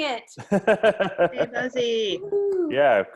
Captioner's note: laughs